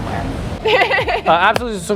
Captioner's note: laughing